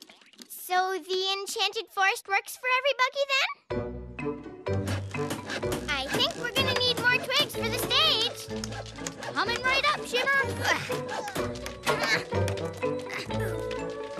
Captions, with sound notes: SO THE ENCHANTED FOREST WORKS FOR EVERYBUGGY, THEN? I THINK WE'RE GONNA NEED MORE TWIGS FOR THE STAGE! COMING RIGHT UP, SHIMMER! (GRUNTS)